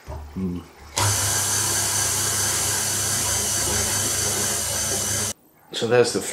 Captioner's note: chuggy chuggy